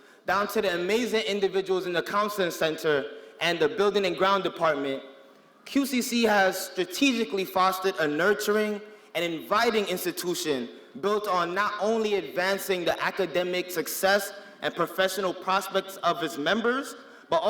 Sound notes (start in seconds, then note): none